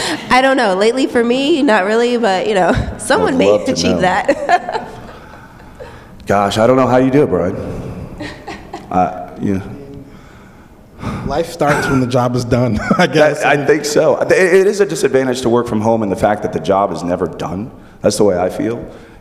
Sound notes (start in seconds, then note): 11.6 laughs